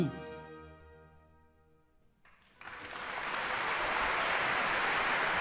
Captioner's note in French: applaudissements